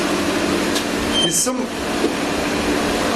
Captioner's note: device beeping